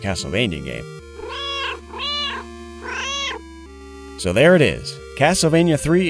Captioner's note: meow, meow, meow